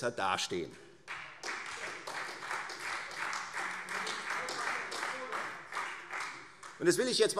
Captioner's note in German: Beifall Freie Demokraten und vereinzelt SPD - Zurufe